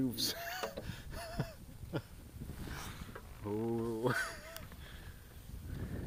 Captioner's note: chuckles